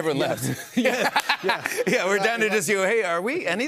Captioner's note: laughs